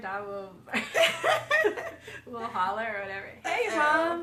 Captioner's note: both laughing